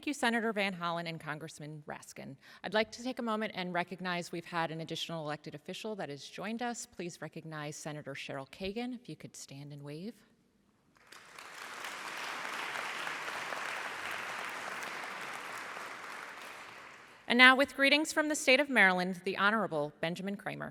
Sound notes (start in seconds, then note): 14.1 applause